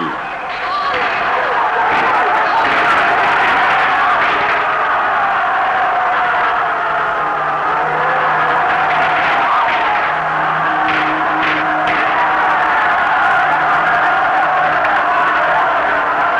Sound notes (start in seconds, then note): 0.3 gunshots, crowd roaring; 4.6 crowd roaring; 6.7 fire engine blaring; 11.2 crowd roaring